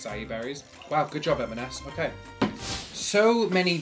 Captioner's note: air whooshes